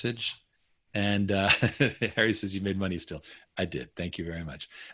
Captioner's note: chuckling